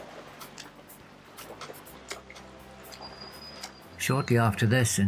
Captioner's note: noise of small waves lapping